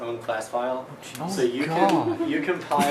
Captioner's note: laughs